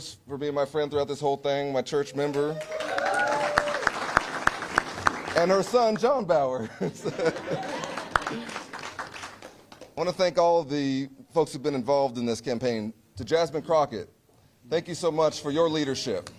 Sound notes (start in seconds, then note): 7.2 applause